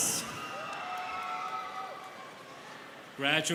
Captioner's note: students cheering